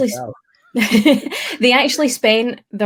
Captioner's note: laughs